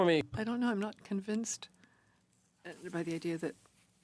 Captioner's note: speaking French